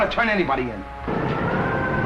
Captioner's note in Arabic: صافرات الإنذار